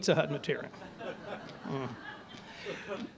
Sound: laughter

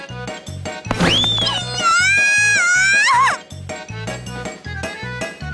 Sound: more screaming and running away

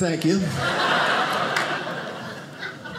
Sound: audience laughing

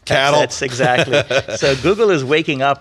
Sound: laughs

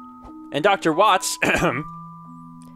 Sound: clears throat

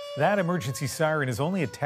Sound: sirens

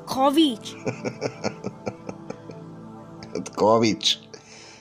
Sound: Spaceface laugh

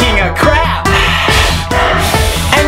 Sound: sighs, sniffs

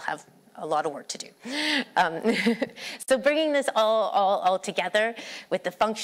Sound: laughter

